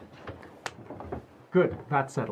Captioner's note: hands clap